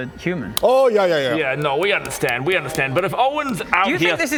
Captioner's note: flurry of nose taps